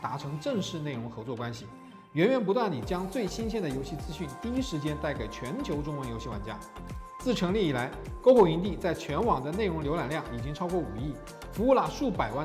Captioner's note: speaking foreign language